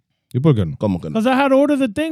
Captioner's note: speaking In Foreign Language